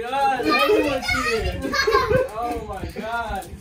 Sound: laughing; shouting

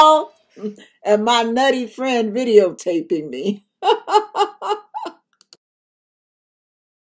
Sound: chuckle

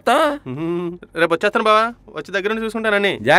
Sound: giggles

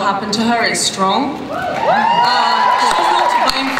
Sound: cheering

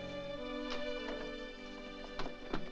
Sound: door opens

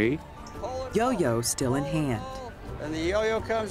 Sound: voiceover

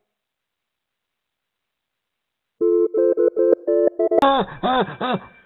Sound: phone ringing; laughing

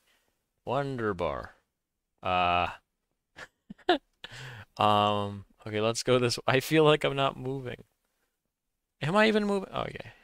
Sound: laughs

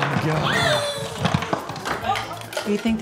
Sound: objects falling over; sighs

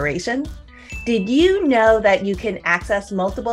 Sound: bell chimes

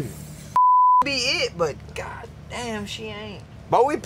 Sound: beep

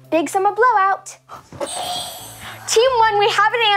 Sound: buzzer ringing

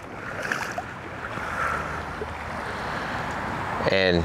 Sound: water splashing

